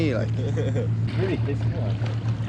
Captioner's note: laughing